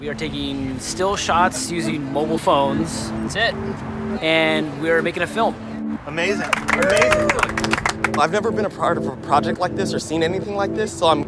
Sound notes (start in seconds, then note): 6.3 clapping and cheering; 6.4 voiceover